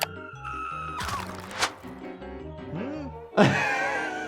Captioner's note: screaming